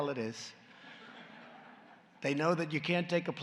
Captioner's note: laughter